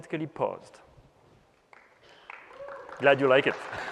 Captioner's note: applause